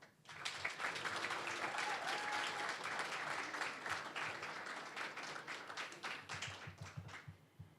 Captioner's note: applause